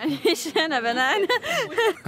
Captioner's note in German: lacht